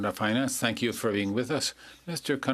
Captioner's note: speaking French